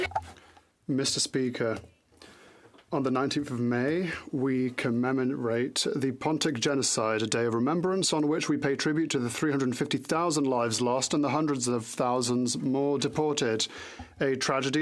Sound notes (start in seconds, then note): 5.0 speaking French